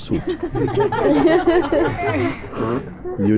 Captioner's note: laughter